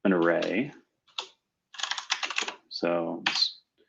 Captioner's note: typing